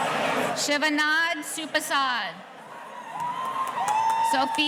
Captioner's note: audience cheering